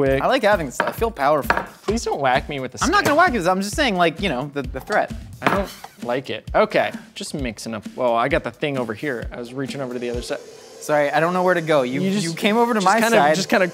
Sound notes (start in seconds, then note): 0.8 thwack thwack; 5.2 thwack